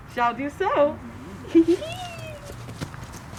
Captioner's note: laughs